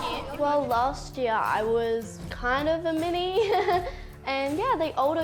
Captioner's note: laughs